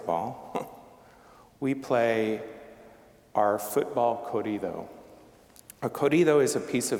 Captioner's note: chuckling